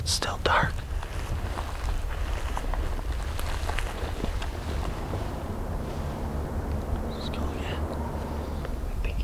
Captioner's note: quiet walking